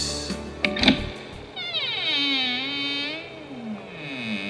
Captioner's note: old door slowly opens